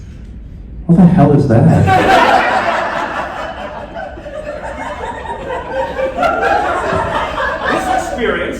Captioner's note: laughter